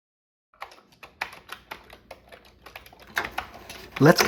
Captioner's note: typing on a C64 keyboard